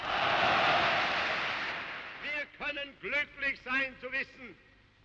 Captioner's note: Beifall